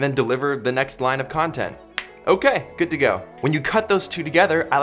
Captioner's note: snapping sound